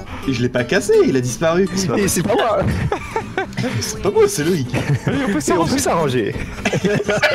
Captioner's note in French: rires